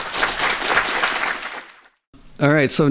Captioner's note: applause